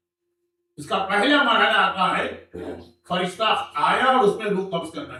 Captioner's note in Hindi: गला साफ़ करने की आवाज़